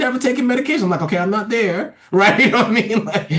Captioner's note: laughs